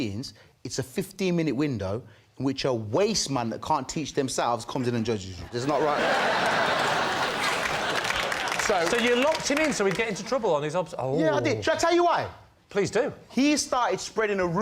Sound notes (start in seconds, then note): 5.4 laughter